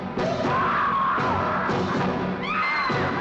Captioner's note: men yelling; woman screaming